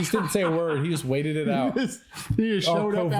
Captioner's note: laughter